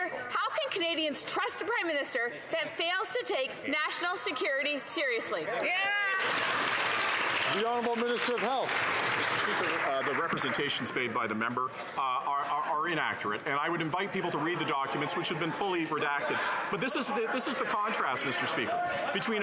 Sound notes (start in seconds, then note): 11.1 some Applause